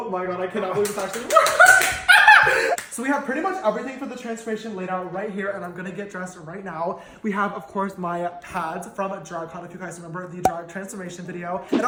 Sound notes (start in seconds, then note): 2.1 laughing